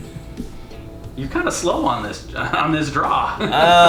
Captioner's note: laughing